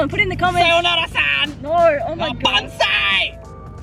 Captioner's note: laughs